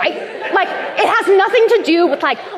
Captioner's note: laughter